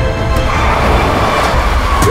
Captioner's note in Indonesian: Suara rem mendadak